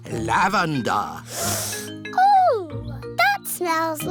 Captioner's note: sniffs